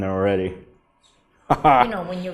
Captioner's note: laughs